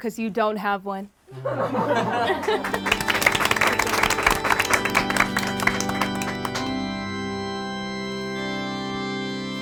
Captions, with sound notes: 'cause you don't have one. (group clapping) (organ music)